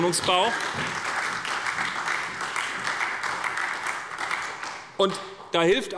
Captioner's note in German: Beifall bei der SPD